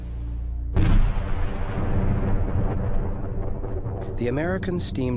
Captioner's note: cannon rumbles